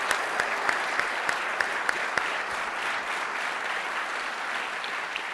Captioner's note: applause; audience applauding